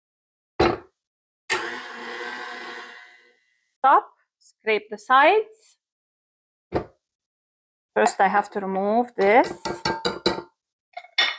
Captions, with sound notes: [sound of mixer] top. Scrape the sides. First I have to remove this